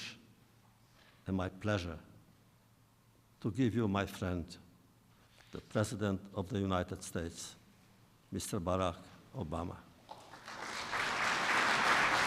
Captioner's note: applause